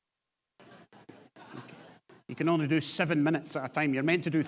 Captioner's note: audience laughs